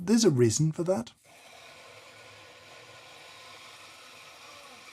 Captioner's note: machine hissing